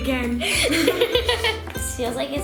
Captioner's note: laughter